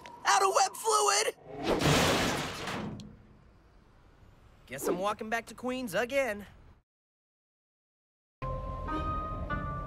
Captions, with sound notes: Out of web fluid! [CRASH] Guess I'm walking back to Queens again.